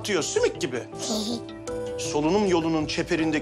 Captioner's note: laughs